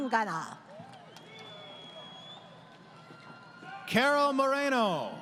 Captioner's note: crowd Cheering